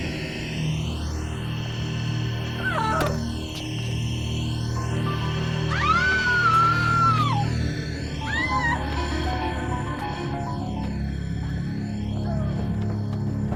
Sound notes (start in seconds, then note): 2.6 moans; 5.0 screams